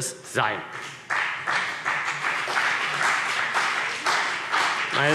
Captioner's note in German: Beifall CDU und BÜNDNIS 90/DIE GRÜNEN